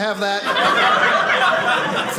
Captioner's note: audience laughing